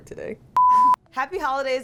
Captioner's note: tone beeping